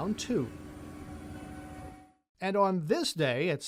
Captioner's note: truck engine purring